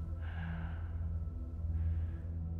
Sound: heavy breathing

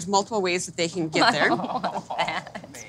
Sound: laughs

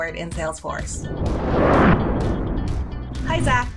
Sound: whooshing

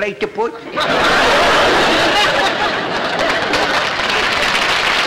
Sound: audience laughter; applause

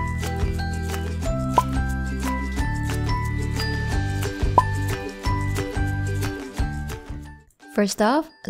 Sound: coin flips, Music; cork pops, Music

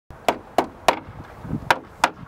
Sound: hammering

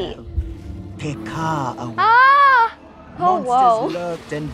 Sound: screams

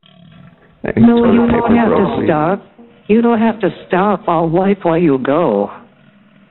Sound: laughter

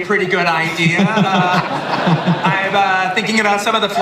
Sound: audience laughing

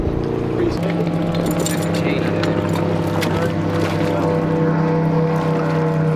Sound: boat engine roars; chains rattle

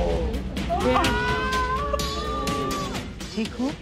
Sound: wailing

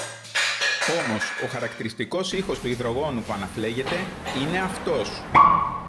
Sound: barking dog

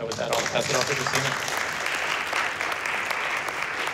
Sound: applause

